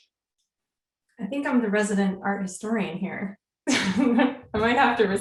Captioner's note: chuckles